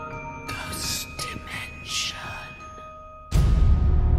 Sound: eerie whispering

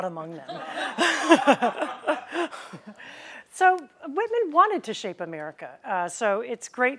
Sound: laughter

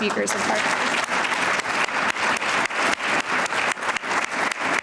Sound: applause

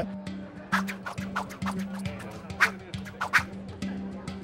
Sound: air whooshing

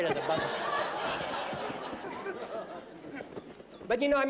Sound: laughter

